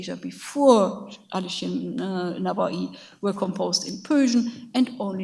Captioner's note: speaks in a foreign language